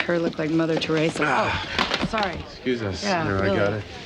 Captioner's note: object clatters to the floor